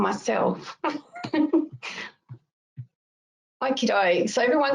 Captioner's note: laughs